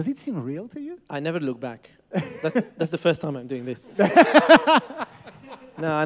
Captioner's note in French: Rires